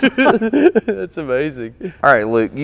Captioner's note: both laughing hard